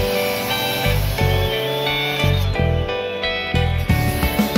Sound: saw whirring

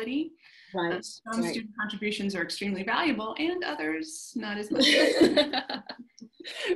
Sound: laughter

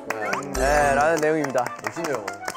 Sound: applause

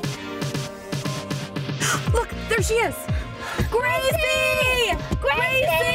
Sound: yelling simultaneously

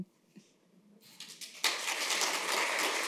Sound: applause

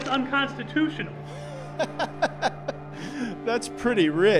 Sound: laughing

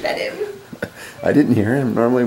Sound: laughs

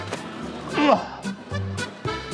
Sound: grunt

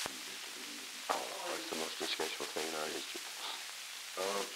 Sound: Truman, mumbling

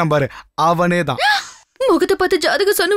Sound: gasps

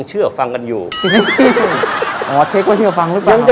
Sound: laughing sound

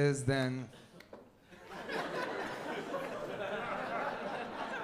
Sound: laughter

